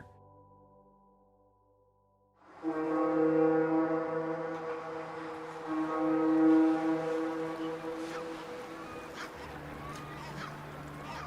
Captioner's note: soundbite of ship horn sounding and seabirds calling